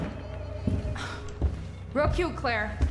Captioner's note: sinister music continues; Rachel sighs